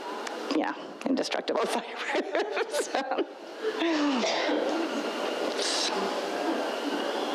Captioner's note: laughs